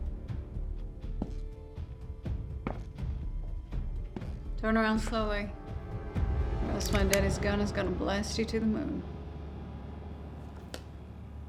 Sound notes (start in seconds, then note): 1.1 slow footsteps; 6.9 gun clicks